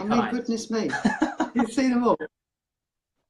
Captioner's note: laughs